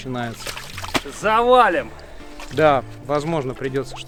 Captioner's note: shouts off-screen: Trees are about tofall!